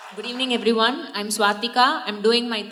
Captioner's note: applause